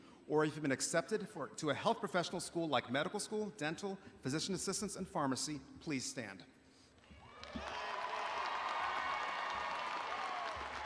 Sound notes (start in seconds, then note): 7.2 audience applauding